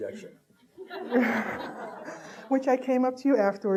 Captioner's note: audience laughing